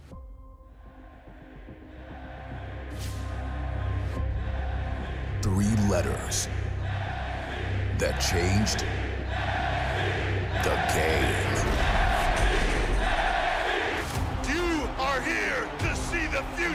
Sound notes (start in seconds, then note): 2.9 crowd chanting, "nxt"